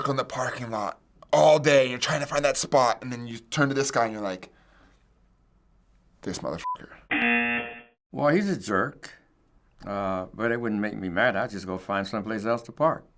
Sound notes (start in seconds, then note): 7.1 buzzer